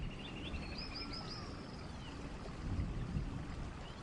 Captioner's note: birds chirping